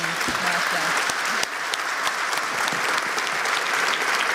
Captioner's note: applause